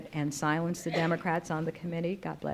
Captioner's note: audience member sneezing